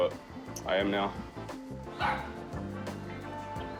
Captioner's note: barks